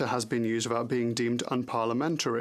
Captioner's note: speaking French